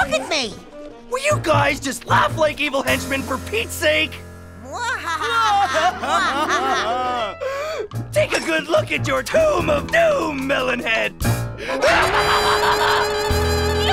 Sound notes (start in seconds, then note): 4.7 both cry; 11.6 laughs